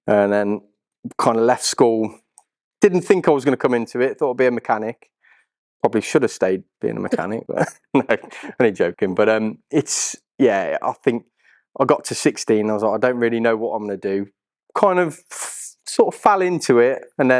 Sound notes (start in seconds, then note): 7.1 nervous Laughter